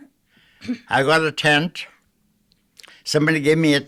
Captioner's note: clearing throat